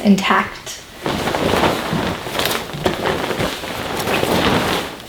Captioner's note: duvet crunching